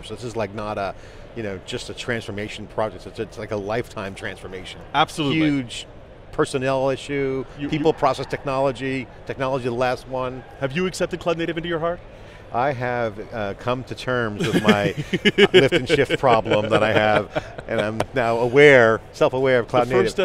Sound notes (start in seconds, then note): 14.4 laughing